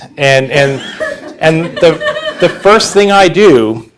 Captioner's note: audience laughing